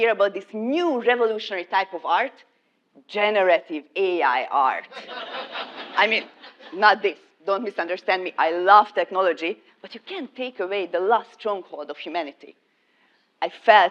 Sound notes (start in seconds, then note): 4.9 laugh